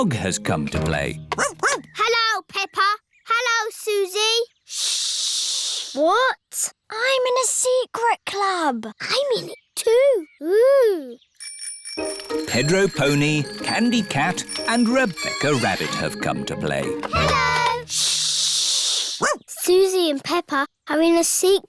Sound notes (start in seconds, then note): 1.4 barks; 11.4 bicycle bells ringing; 19.2 barks